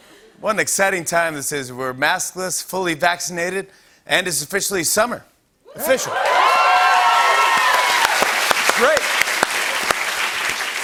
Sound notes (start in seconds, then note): 5.8 cheers and applause